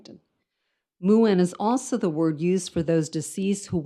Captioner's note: speaks in foreign language